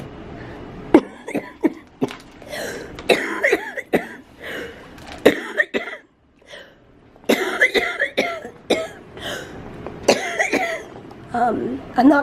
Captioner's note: hard coughing